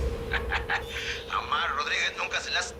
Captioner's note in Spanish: Risas